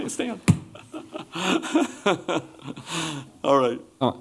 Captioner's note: chuckles